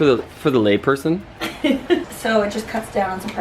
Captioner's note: laughing